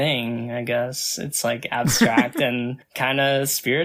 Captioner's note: laughs